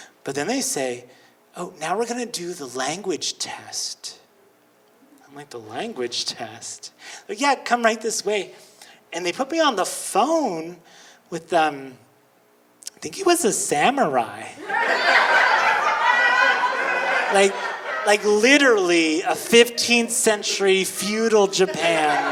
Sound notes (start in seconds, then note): 14.6 audience laughing; 22.1 audience laughing